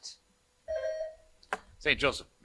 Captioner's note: buzzer buzzing